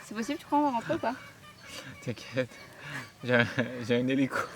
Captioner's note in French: Rires